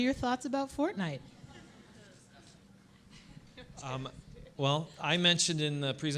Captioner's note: audience laughing